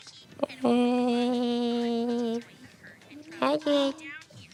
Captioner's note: Derps mumble awkwardly